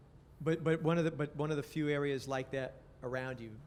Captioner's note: voiceover